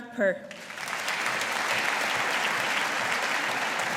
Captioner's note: audience applauding